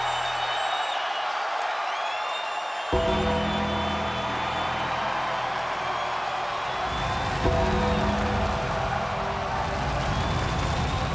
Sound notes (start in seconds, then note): 3.0 ominous music continues; 4.7 audience cheers